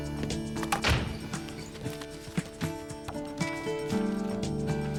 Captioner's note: upbeat music; door closes